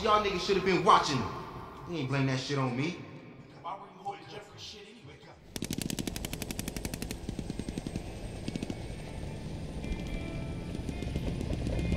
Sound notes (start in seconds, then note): 5.4 whirring helicopter; 5.5 muffled guns firing; 9.0 mellow Vietnam era instrumental music